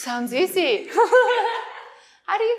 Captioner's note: laughter